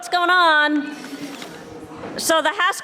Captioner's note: crowd mumbling